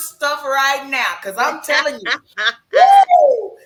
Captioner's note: laughs